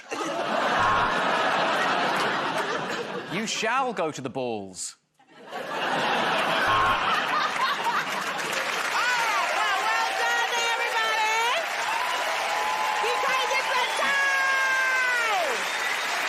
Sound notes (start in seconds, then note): 0.8 buzzer buzzes; 1.8 laughter; 6.6 buzzer buzzes; 7.1 laughter